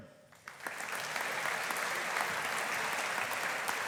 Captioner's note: audience applauding